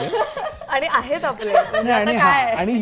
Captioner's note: laughs